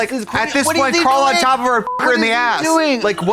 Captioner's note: beep